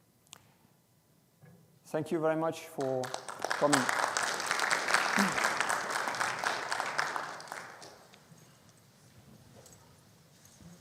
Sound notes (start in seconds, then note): 2.8 audience applauding